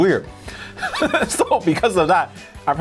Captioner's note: laughs